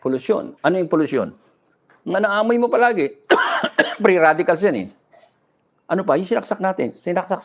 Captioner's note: coughing